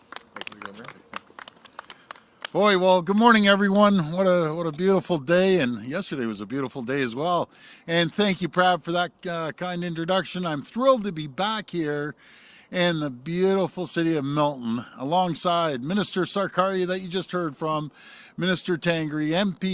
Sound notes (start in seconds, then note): 2.6 applause